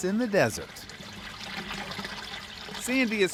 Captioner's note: water trickles